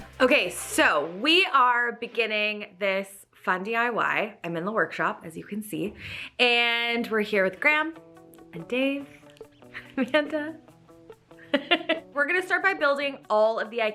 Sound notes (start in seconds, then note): 11.4 chuckles; 11.5 laughs